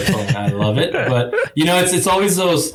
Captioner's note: laughing